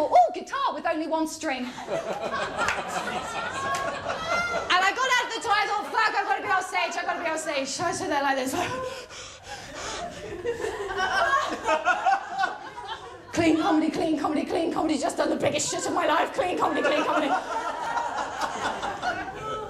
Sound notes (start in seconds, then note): 1.6 laughter; 8.5 breathes heavily; 10.0 laughter; 16.6 laughter